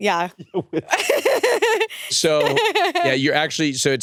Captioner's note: laughs